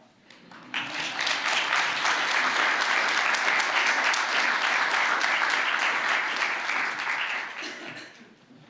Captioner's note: applause